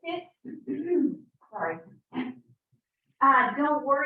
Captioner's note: clears throat